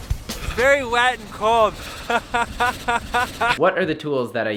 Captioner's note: laughs